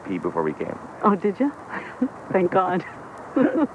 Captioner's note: laughs